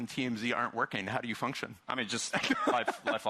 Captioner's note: chuckling